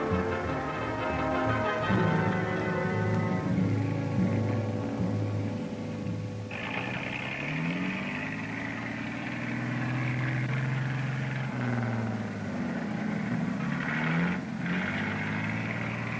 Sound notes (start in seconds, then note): 6.0 motor sputters